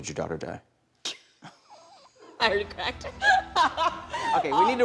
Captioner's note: laughs